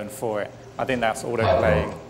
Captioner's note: animal noises